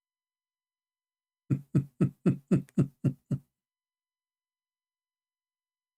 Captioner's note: Ketawa